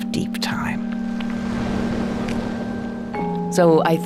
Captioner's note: waves crashing; bells chime